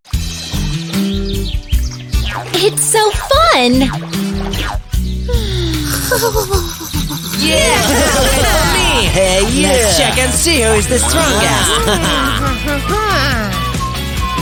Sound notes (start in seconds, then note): 5.6 snoring; 6.1 shouting; 14.1 shouting and screaming; 14.1 whistling